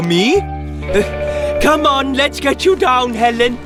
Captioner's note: grunting